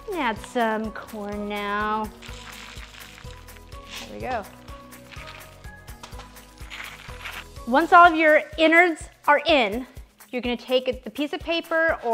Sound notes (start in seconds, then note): 2.0 pouring corn; 6.6 pouring corn